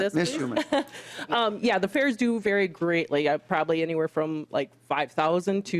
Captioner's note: laughter